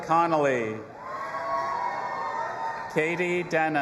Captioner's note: audience applauding and cheering